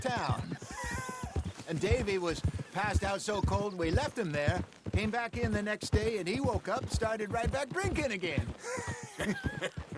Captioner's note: laughs; laughs